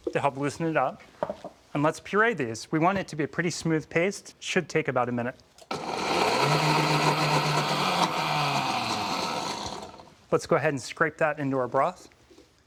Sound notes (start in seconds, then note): 5.7 whirring; 8.2 whirring stops